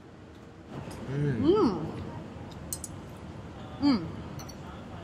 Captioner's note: both humming